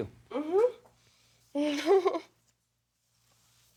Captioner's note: chuckles